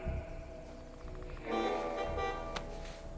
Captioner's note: horn honking